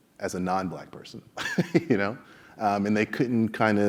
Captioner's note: laugh